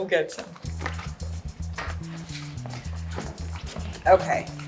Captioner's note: footsteps plodding